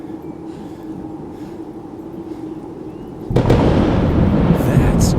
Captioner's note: thunder loudly crashing; thunder rumbling